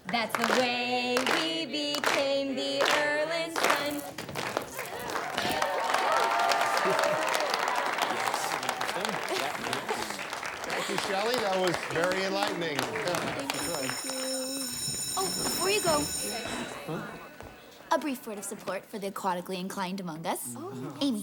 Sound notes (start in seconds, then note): 3.8 feet shuffling; 5.9 class cheers; 14.7 bell rings